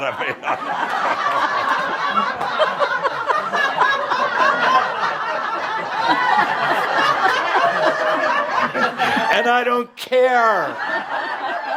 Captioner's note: lots of laughter as Adamus hides behind the easel for a moment